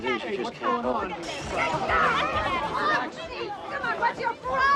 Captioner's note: people yelling